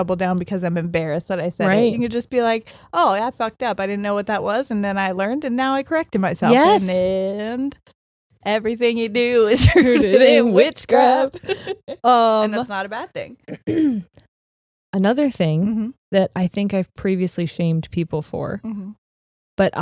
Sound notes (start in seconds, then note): 13.4 clearing throat